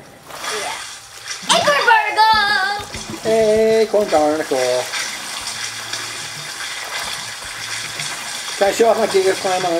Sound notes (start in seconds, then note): 5.4 water splashing; 7.1 calm music